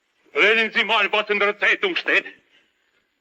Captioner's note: speaking German